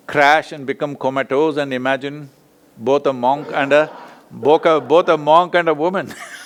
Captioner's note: laughs; both laugh